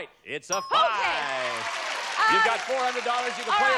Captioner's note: applause